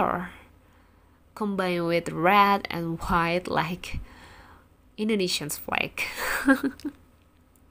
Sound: chuckle

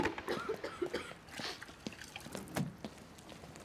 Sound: Abigail coughing

